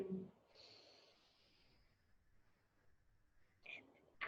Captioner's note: inhales heavily